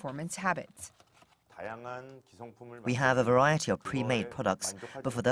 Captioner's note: Korean